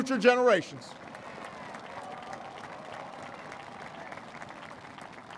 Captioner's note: applause